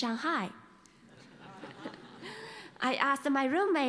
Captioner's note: laughter